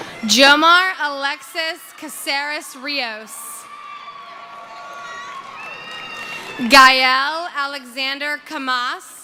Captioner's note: cheering